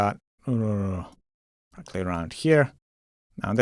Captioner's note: grunts